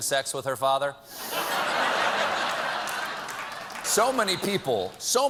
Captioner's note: laughter